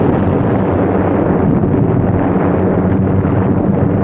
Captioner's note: bombs exploding